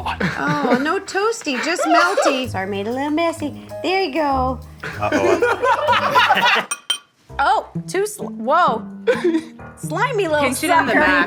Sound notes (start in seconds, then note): 4.8 chefs laughing; 8.9 Zach laughing